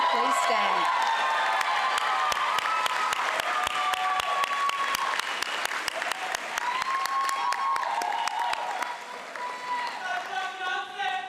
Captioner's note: applause